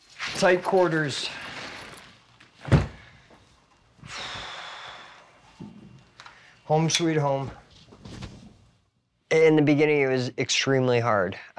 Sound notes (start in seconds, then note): 4.0 exhales